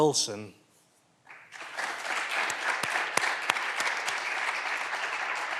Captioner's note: clapping continues